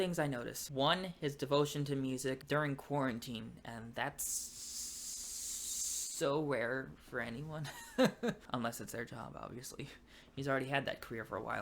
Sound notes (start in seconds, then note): 7.8 fake laughter